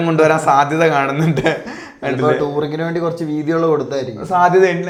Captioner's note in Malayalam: പൊട്ടിച്ചിരി